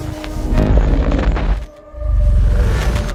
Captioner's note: static